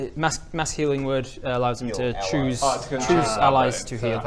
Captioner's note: none